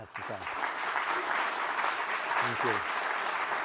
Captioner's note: applause